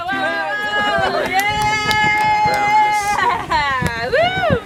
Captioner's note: group cheering